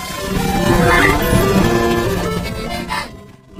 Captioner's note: laughs nervously; panting; screams